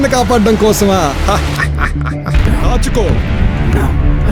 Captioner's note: laughs